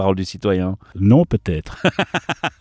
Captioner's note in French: Rires